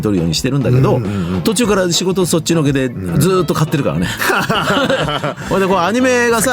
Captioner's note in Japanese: 笑い